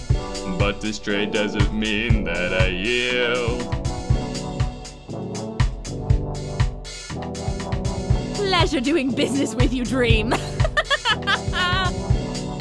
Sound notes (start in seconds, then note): 10.3 laughing and mimicing Dream's voice